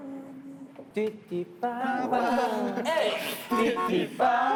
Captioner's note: beep beep!